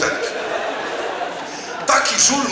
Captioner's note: audience laughs